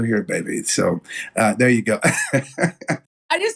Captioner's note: laugh